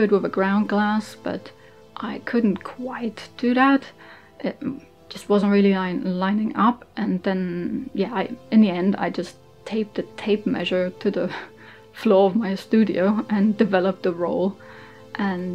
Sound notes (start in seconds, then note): none